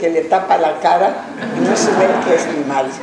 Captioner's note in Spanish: laughs